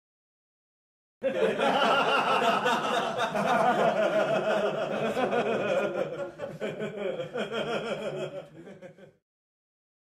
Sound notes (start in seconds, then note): 1.2 sound of men laughing